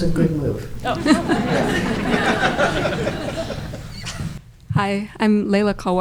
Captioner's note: audience laughing